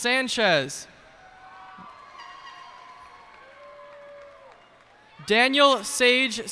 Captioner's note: cheers and applause